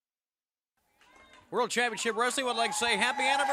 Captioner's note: crowd cheering